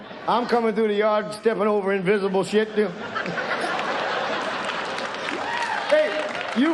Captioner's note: audience laughs